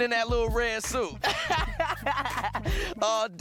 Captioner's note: laughing